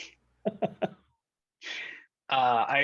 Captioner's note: laughter